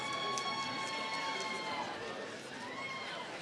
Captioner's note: applause